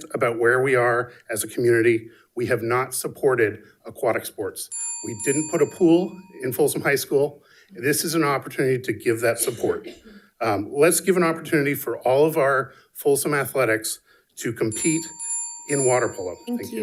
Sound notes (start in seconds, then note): 4.7 bell dinging; 14.7 bell dinging